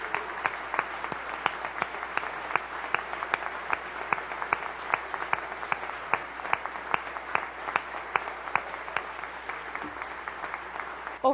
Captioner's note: applause